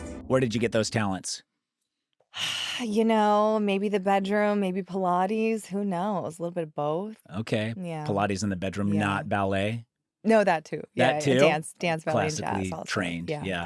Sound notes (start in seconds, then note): 3.1 sighs